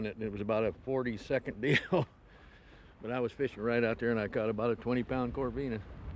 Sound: laughs

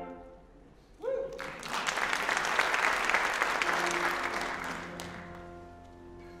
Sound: applause

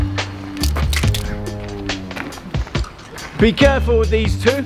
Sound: back cracks

